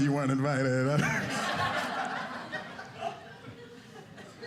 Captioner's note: audience laughing